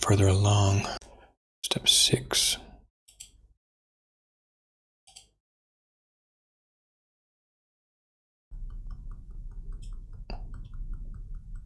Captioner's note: blank Audio